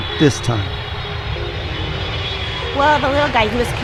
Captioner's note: airplane flying